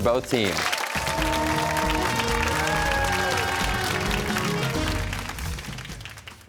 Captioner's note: cheers and applause